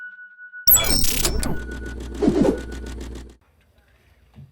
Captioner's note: high pitched ringing intro; static crackles